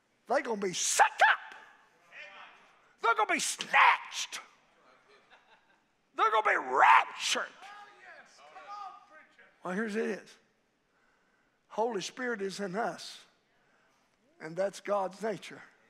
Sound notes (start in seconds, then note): 3.0 congregation exclaiming; 5.0 congregation laughing